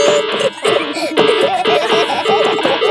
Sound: dissonant music; laughter

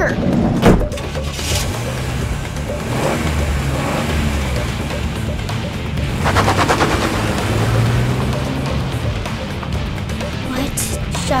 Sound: engine starts, revving

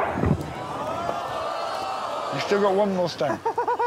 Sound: audience gasps

